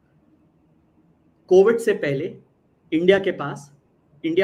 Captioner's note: non-english speech